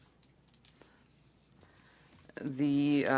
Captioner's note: speaking French